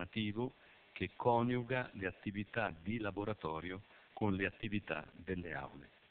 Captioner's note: Italian